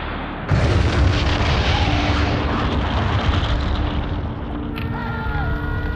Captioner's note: explosion roaring; men shouting, sirens blaring